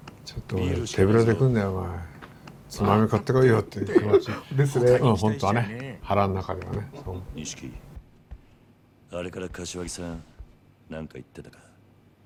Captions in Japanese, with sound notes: ちょっと、手ぶらで来るなよ。 つまみを買ってこいよって気持ち。 [笑い] ですね。 本当はね、腹の中ではね。 錦。あれから柏木さん、何か言ってたか?